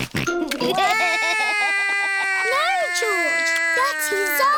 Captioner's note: george laughs; cries